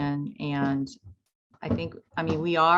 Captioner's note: footsteps plodding